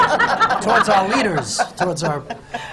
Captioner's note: laughter